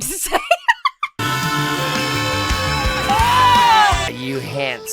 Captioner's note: giggles; fish singing loudly; winces loudly